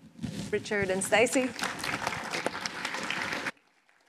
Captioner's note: applause